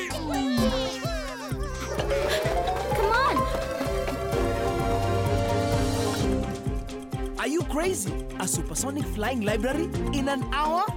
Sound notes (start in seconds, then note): 4.4 siren continues blaring